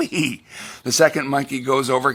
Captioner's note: laughs